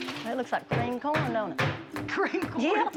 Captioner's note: laughs